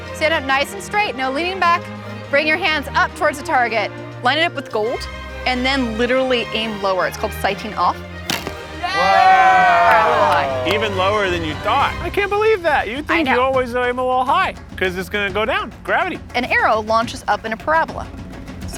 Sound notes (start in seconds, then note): 8.8 cheering